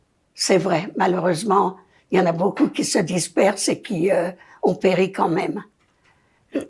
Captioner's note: coughing